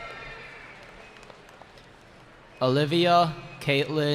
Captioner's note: cheering